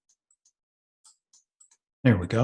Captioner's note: mouse clicking